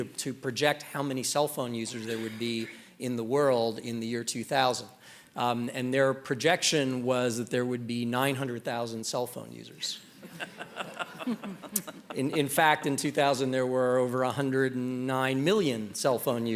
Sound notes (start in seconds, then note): 10.1 laughter